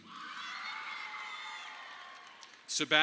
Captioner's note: audience applauding